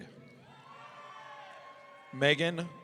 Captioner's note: audience cheering